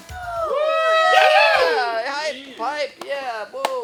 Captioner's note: cheering